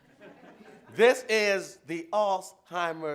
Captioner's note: laughs